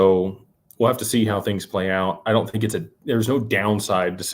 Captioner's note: none